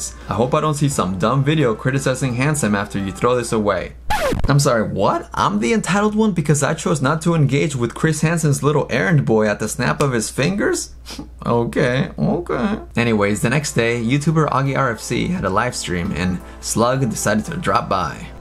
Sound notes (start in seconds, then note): none